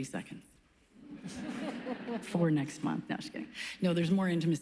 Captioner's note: laughs